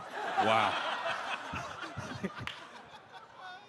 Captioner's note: laughter